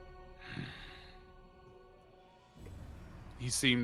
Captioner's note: grunting